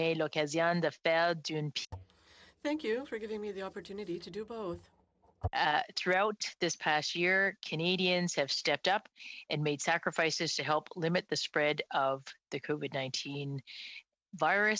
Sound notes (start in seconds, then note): 4.5 speaking French